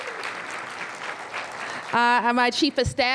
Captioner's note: applause